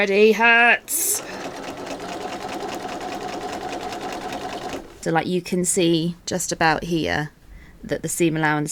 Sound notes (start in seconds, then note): 5.0 sewing continues